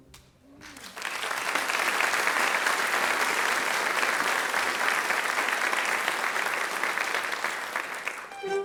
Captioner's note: applause